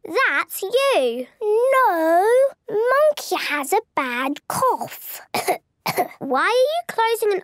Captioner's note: pretending to cough